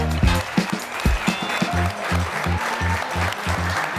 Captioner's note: audience applauding